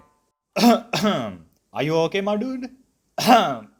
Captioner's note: cough